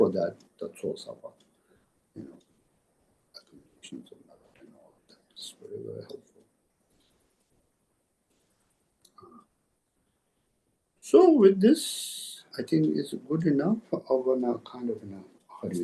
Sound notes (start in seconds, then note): 3.5 tibetan